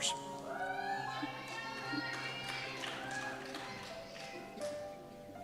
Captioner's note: cheers